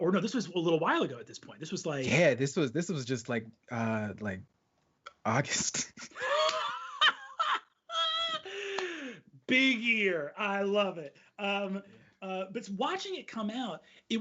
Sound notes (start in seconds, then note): 6.1 laughing